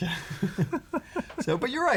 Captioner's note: laughter